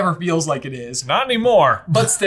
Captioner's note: chuckles